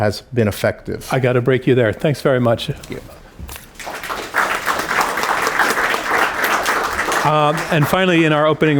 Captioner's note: applause